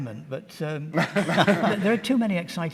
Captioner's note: laughter